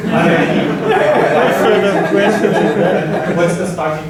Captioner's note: laughter